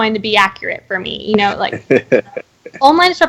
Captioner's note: laughing